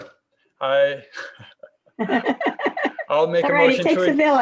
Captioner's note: gentle laughs